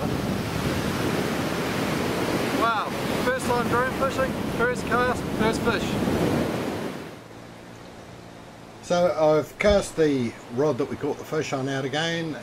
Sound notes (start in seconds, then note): 0.0 waves crashing; 6.6 drone motors running